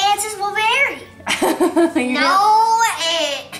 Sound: laughs

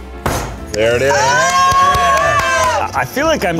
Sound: cheering

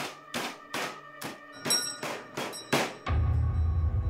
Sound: bell ringing; suspenseful music

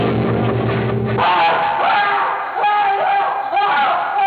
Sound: loud screaming

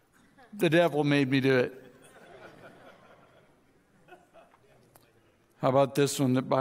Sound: audience chuckles

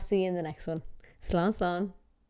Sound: foreign language

